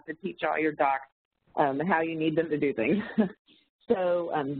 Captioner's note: chuckles